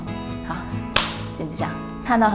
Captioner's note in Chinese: 擊掌